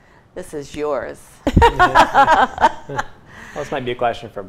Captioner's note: laughter